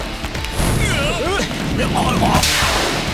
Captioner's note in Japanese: どよめき